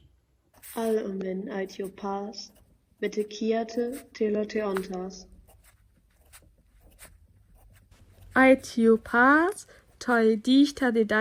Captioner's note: student reads passage from The Odyssey in Greek